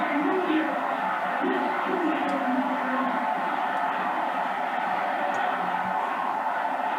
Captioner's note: crowd cheering